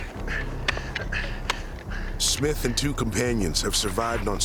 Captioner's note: shoveling